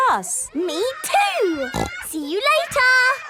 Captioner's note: snorting; giggling